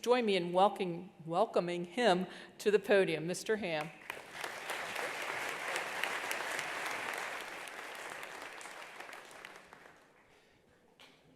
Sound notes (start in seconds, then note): 4.0 attendees applauding